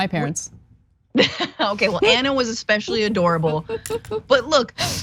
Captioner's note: laugh